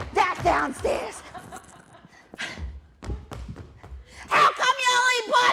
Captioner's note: laughter